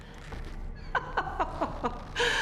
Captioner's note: chuckles